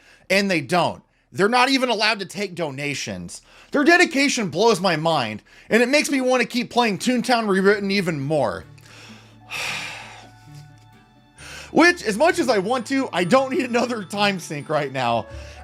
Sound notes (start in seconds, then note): 9.5 sigh